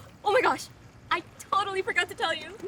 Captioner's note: none